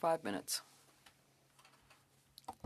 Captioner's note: speaking French